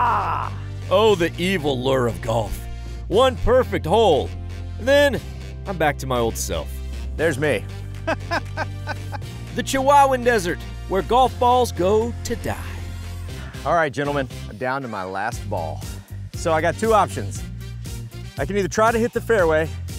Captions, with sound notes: Oh, the evil lure of golf. One perfect hole, and then I'm back to my old self. There's me. (laughs) The Chihuahuan desert, where golf balls go to die. All right, gentlemen, I'm down to my last ball. So I got two options, I can either try to hit the fairway